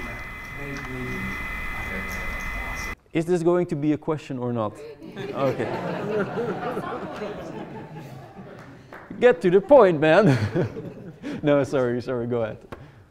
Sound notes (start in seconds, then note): 5.1 audience laughing; 10.9 laughs